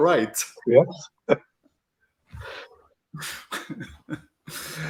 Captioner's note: chuckling